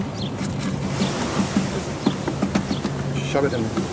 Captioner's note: bees buzzing